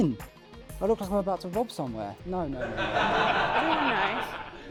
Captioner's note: laughter